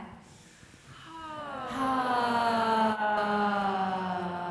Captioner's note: all sigh slowly